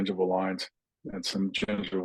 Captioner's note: laughs